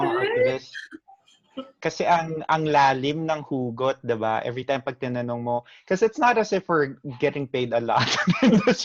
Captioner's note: laughter